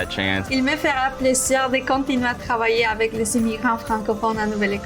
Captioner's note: spanish speaker